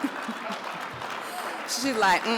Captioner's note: chuckles; audience laughs